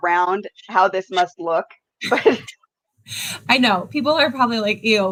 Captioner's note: laughs